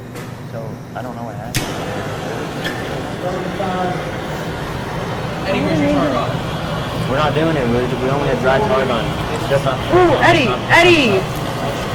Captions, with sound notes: - So, I dunno what happened. (flame roaring) - 35. - I would have made them-- - Think we should turn it on. - We're not doing it, we only had dry tart on. - Ooh Eddie, Eddie.